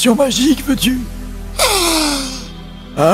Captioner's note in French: sniffe bryamment